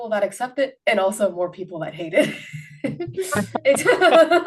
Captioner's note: laughs